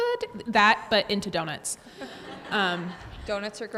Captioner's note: audience laughs